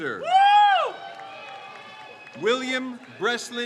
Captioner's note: crowd cheers